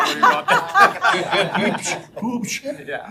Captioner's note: all laughing